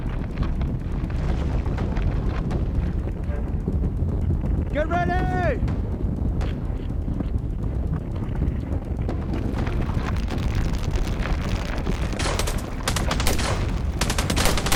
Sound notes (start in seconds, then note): 9.7 ground cracking; 12.1 guns banging